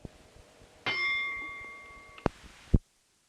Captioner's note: bell Sound